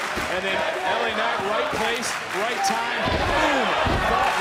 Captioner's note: crowd chants "this is awesome"